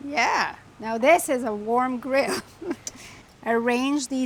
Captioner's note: chuckles